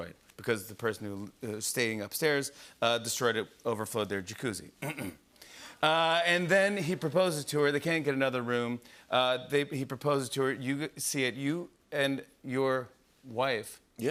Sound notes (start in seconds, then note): 4.8 clears throat